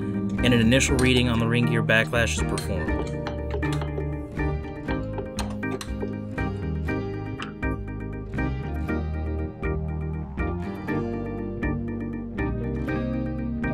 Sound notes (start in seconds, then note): 3.8 background music; 5.1 wrenching noises